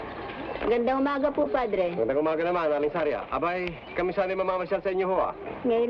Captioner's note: people speaking in Tagalog